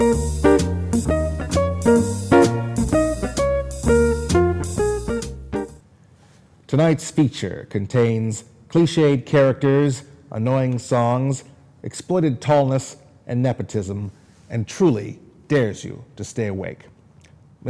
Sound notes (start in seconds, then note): none